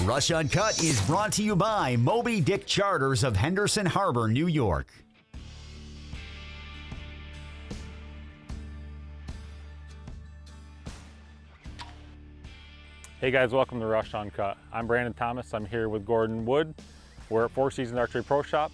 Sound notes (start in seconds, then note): 5.4 intro music playing; 11.7 arrow launching